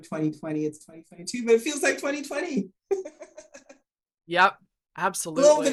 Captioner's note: chuckling